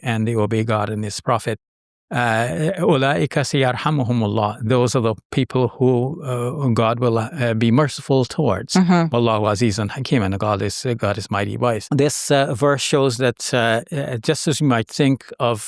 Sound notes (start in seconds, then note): 3.3 speaking Arabic; 9.2 speaking Arabic